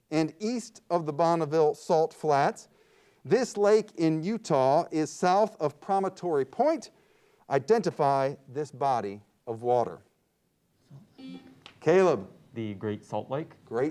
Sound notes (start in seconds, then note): 10.9 buzzer beeps